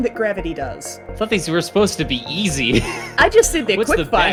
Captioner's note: wheezes